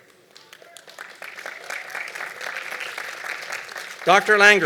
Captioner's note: applause